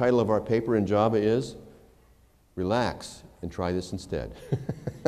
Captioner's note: laughter